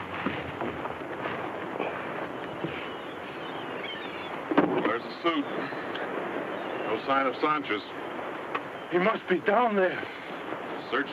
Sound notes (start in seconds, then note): 1.8 seagulls caw